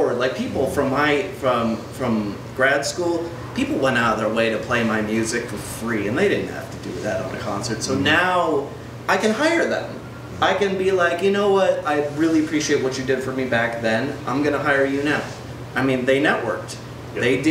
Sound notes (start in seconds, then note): none